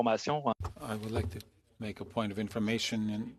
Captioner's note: speaking FRENCH